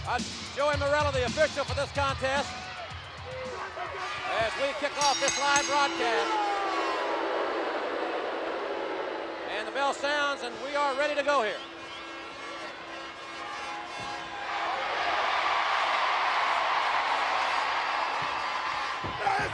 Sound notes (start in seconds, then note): 6.9 audience jeering; 15.1 audience cheering